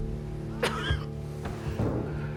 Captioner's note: coughs